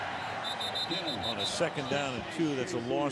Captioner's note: whistle